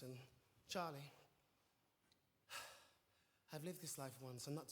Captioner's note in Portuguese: sighs